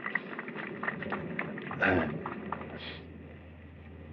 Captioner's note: applause